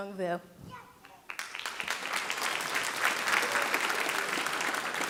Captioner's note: audience applauding